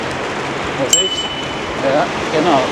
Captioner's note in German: Klingel